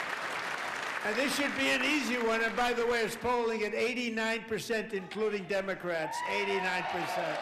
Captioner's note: applause